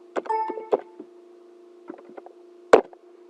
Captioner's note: chime